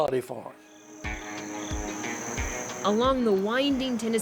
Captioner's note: crickets chirping